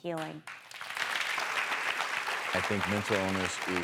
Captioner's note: applause